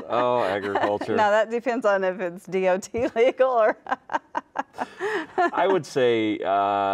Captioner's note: laughs